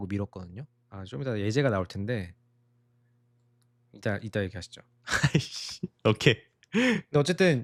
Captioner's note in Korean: 웃음